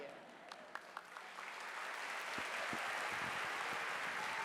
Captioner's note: audience applauding